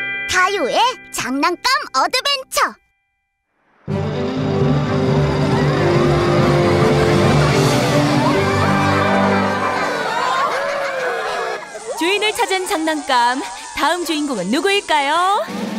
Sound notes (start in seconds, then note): 8.8 giggling; 15.4 drum roll